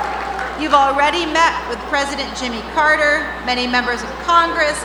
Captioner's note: cheers and Applause